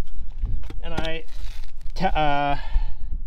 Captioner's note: plastic crinkling